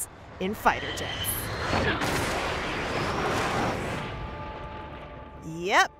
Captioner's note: soundbite of jet flying